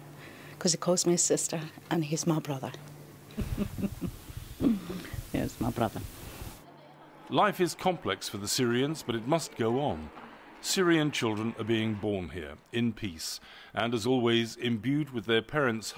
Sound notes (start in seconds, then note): 3.3 laughter